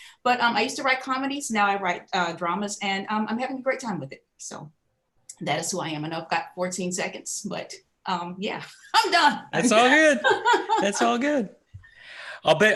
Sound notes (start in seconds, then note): 9.5 laughing